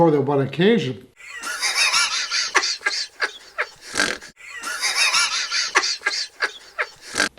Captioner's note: male Laughter